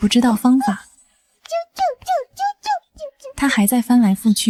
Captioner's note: chirp chirp chirp chirp chirp chirp